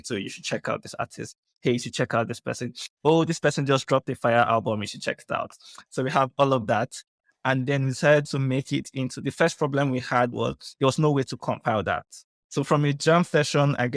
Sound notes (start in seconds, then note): none